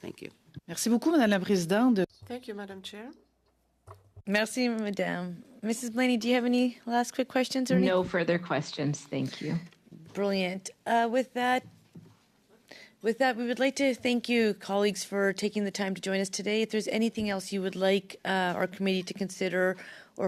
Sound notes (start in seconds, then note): 7.2 speaking French